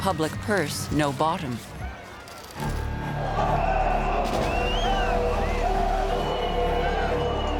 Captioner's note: crowd yelling